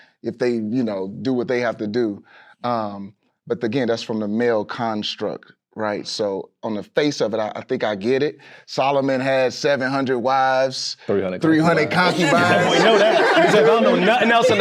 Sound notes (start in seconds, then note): 12.0 group chattering and laughing